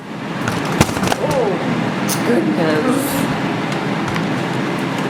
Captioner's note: crashes into camera tripod